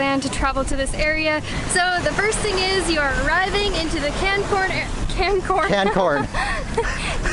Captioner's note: Laughing at Maddie's error; laughter